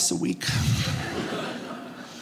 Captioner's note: audience laughing